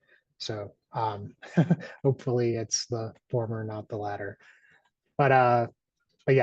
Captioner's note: chuckles